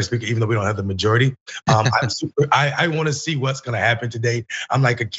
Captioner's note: laugh